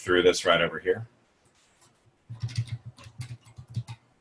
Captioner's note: typing